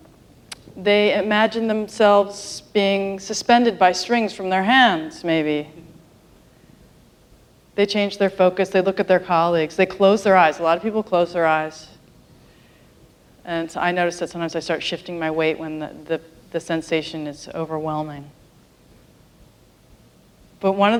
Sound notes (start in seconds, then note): none